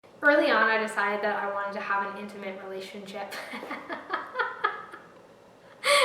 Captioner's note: laughs